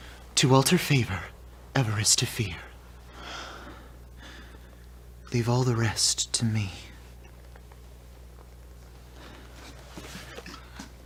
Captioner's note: birds chirping